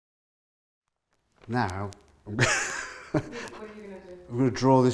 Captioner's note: laughing